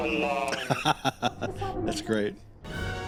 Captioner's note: laughing